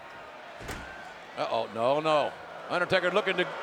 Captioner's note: audience jeers